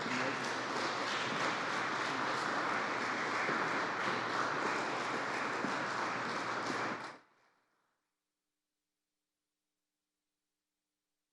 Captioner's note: applause